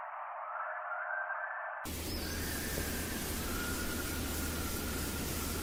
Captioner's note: distant entity continues whistling